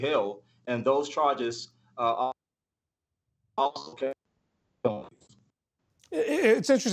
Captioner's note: audio gap